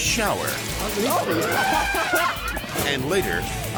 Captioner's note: laughs; elephant trumpets